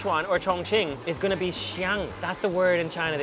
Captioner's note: speaks in a foreign language